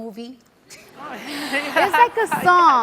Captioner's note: audience laughs